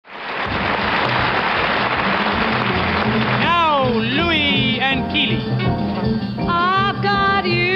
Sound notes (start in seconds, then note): 0.0 audience applauding